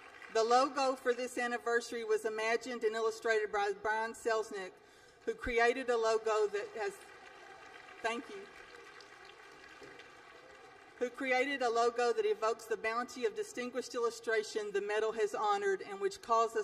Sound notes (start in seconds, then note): 6.0 applause